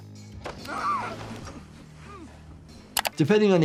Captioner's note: Malcolm screams